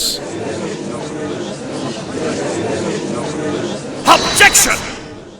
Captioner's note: gallery chattering